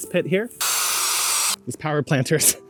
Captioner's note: power tool buzzing